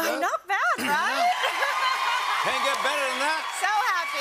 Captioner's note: cheers and applause